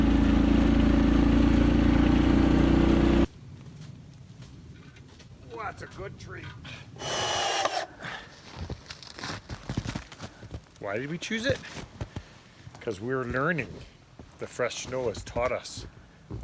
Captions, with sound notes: (engine roaring) Oh, that's a good tree. (drill whirring) Why did we choose it? 'Cause we are learning.